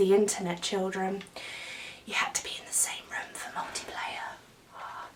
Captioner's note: whispers